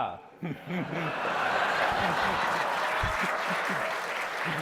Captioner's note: audience laughing